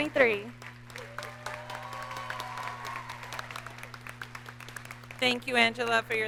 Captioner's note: audience cheers and applauds